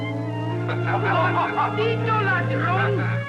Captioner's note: laughter; speaking spanish; laughs